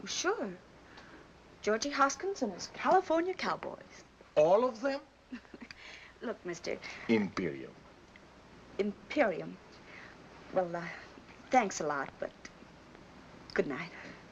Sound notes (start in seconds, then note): 5.4 chuckles